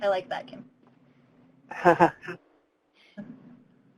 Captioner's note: laughs